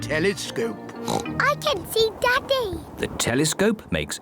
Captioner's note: oinks